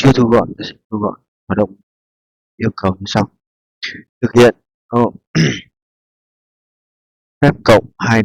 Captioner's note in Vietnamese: hắng giọng